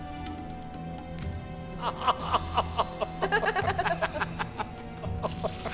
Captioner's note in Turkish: Gülme sesleri